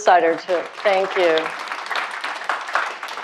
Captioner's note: audience applauding